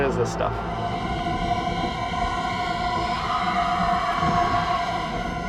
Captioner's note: high pitched eerie sound